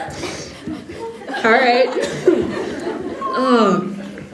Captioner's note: Yuuri makes a nervous laugh